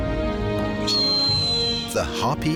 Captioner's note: eagle screeches